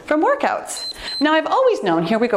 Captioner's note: timer beeps